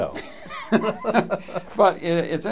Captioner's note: laughter